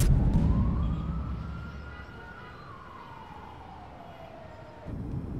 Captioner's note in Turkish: Korna sesleri